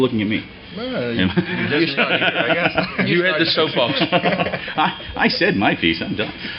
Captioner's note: laughter